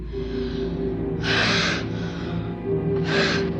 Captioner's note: sharp breath